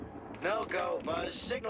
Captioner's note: thunder